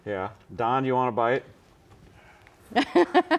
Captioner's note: laughs